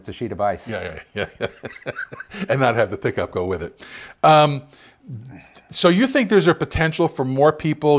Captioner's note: malevolent chuckle